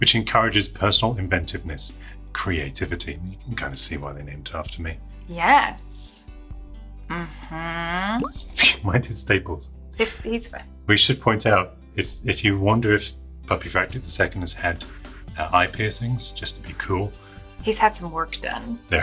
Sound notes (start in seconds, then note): 5.7 sarcastically